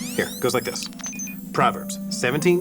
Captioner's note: beeping